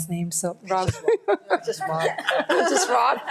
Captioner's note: laughs; audience laughs